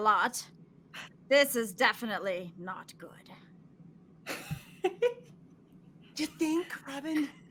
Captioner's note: narrator laughing